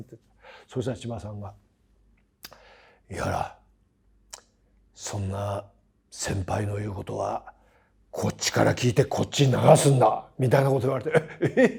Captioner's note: laugh